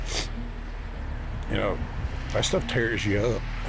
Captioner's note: sniffles